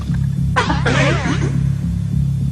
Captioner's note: distorted laughter